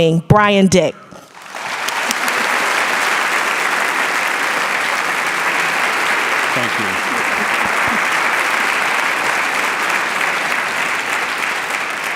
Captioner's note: audience applause